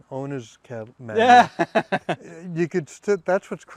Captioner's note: laughs